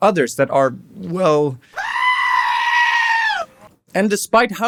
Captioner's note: dragon screams